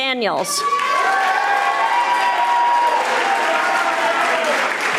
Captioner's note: audience applauding